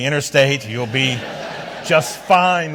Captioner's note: audience laughs